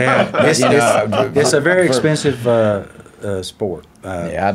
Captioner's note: laughing